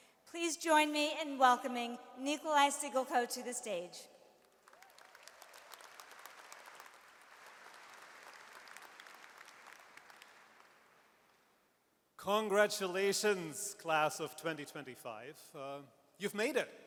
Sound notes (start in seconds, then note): 4.5 audience applauds